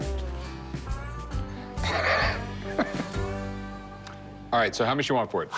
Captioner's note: laughs